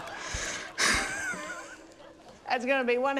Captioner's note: wheezes